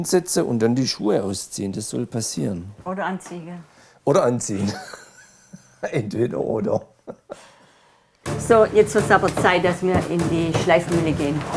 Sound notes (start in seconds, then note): 7.6 laughter